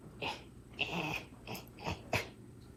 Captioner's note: grunting